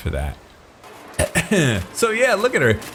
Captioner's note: clears throat